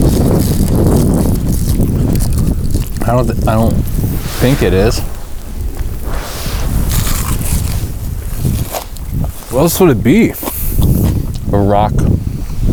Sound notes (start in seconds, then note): 0.2 air whooshing; 6.8 lettuce crunching